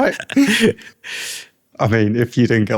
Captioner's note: laughter